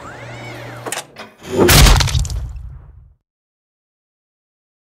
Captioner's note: pony-smashing noises